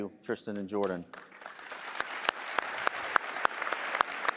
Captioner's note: applause